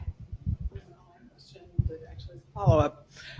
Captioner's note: woman mumbling